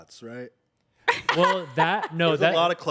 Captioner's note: everyone laughs